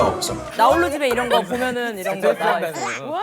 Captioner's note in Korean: 시끌벅적